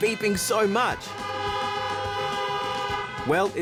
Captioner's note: car horns blare